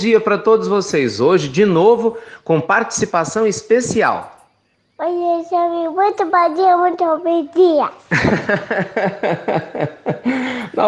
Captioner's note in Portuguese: risos